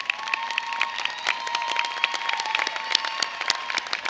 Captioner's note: cheers and applause